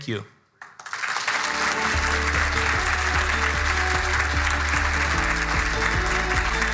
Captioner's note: audience applauding; bright music